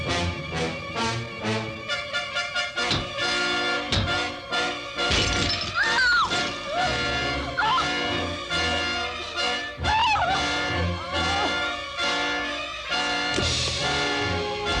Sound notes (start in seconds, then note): 5.0 glass shattering; 5.7 screaming